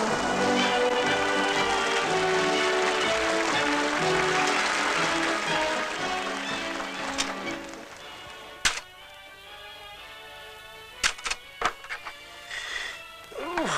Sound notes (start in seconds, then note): 0.0 applause